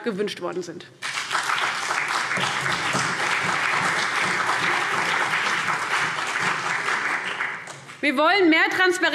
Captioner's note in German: Beifall CDU und BÜNDNIS 90/DIE GRÜNEN